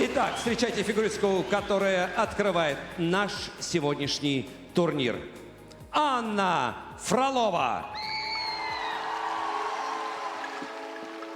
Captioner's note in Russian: ликование